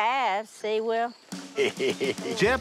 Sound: laughs

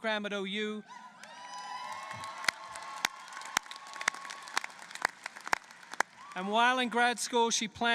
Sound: applause

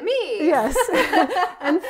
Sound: laughter

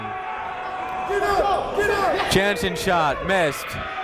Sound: shouting

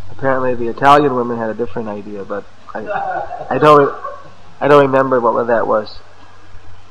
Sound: laughter

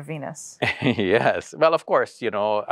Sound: laughs

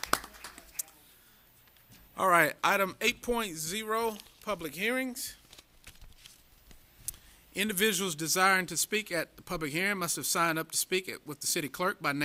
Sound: applause

